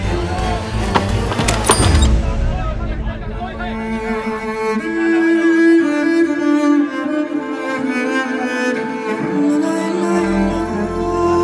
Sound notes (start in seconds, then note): 2.6 sounds of crowd in a distance; 4.8 emotional music playing